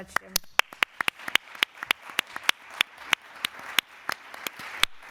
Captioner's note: applause